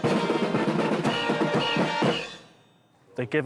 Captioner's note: whistle blowing